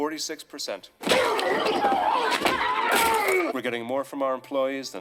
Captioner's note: tackling and grunting